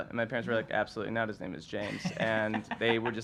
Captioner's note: laughs